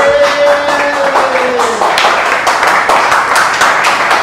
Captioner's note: cheering and applause